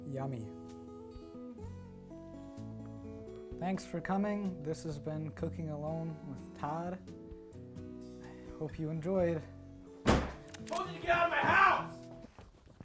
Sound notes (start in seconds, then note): 10.0 loud Crash, gun cocking